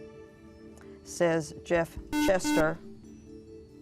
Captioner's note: buzzer